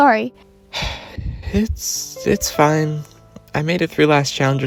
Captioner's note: sigh